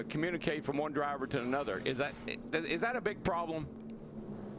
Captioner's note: radio